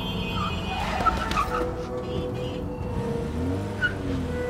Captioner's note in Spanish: Neumáticos chirriando